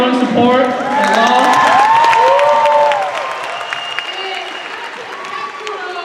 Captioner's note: cheers and applause